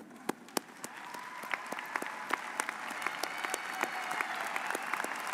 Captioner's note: audience applauds